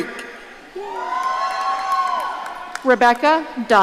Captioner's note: audience cheering